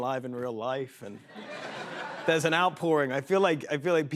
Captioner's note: laughter